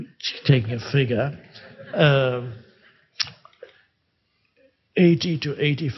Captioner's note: crowd laughing